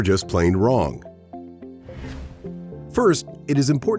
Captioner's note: bright music; graphic whooshing